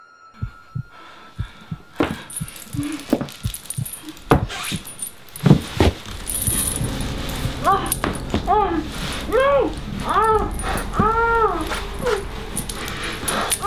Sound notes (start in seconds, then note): 0.4 slow Heartbeat Sound; 3.5 footsteps Approach; 9.2 gagging & Panicking